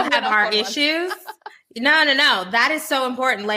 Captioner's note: Jameela laughing